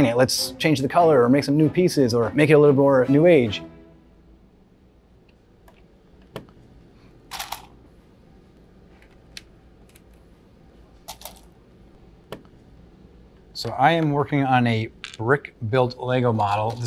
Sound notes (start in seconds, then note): 6.3 Lego snaps; 7.4 Legos clink together; 9.9 Lego snaps; 11.1 Legos clink together; 12.3 Lego snaps